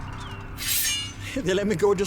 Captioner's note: sword sheathing